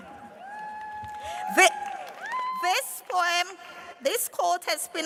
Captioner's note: cheers and applause